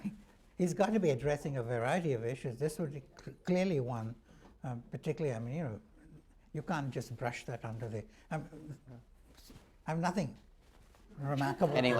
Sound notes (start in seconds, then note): 8.8 laughter